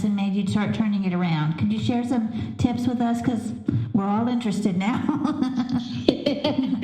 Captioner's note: laughter